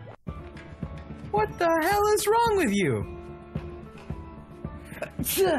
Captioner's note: cry; cry sneezes